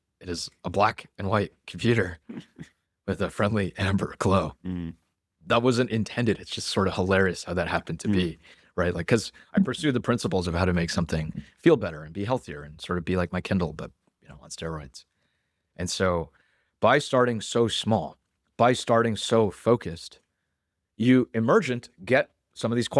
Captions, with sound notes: It is a black and white computer- [laughs] ... with a friendly amber glow. Mm-hmm. That wasn't intended. It's just sort of hilarious how that happened to be. Mm-hmm. Right? Like, 'cause- [laughs] ... I pursued the principles of how to make something feel better and be healthier and sort of be my Kindle, but, you know, on steroids. And by starting small, by starting focused, you emergent get some of these